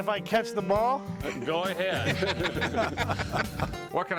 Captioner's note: laughter